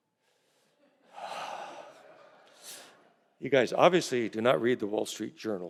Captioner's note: sighs